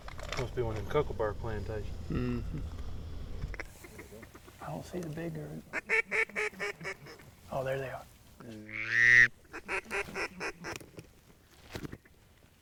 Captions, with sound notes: It must be one of them kookaburra plantations. I don't see the big girl. (duck call quacking) Oh, there they are. (duck call quacking)